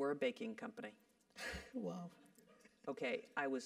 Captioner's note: laugh